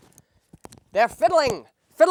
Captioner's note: Groucho Marx voice